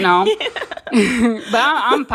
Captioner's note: laughter